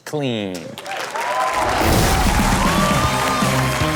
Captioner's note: audience cheers; upbeat rock music